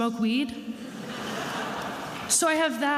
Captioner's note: attendees laughing